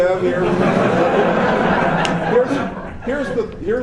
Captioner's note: laughter